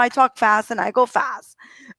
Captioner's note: breathes heavily